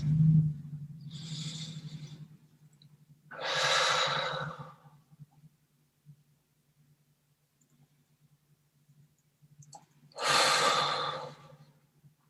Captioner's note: final exhales